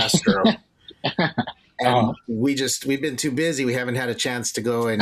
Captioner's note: chuckles